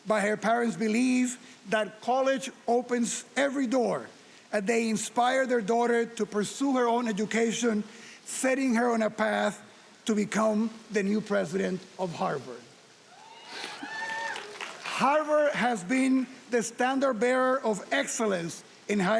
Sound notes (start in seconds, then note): 13.1 audience applauding and cheering